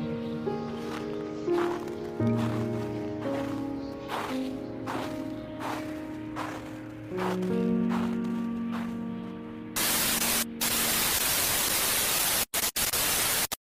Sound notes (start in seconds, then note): 1.5 footsteps; 9.7 TV static